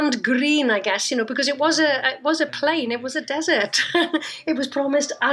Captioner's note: laughs